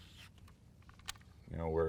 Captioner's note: rod whipping; reel spinning